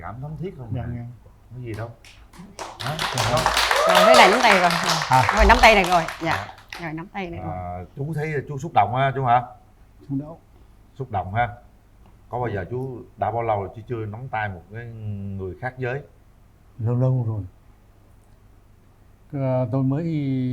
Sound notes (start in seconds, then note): 4.4 applause